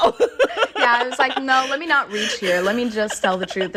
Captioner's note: laughter